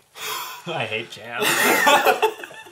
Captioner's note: all laugh